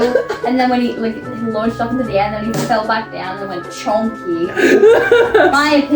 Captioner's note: giggles; table slam; laughs